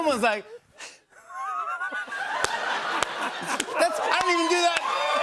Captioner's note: laughter